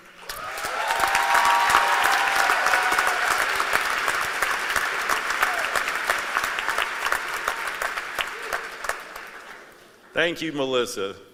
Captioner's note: applause